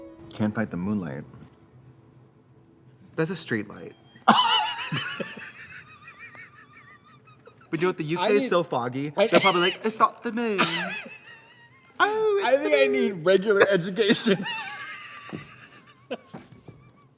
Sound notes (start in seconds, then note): 3.7 bell rings; 4.3 Trixie and Katya laugh; 10.6 Katya laughs; 13.5 both laugh